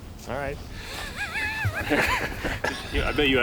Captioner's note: both laugh